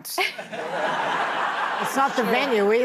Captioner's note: audience laughs